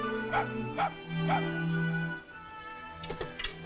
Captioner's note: gentle music; dog barks